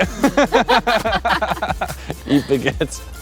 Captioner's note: laughing